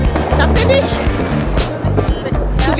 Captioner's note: speaking German